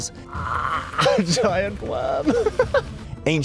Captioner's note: laughs